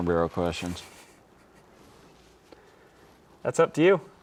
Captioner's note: chuckling